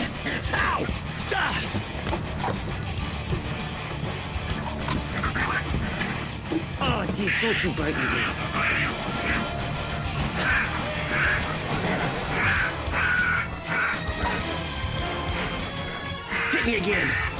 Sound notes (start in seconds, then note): 0.0 Billy grunts; 8.2 raccoon screeching; 10.0 exhales; 10.0 screeching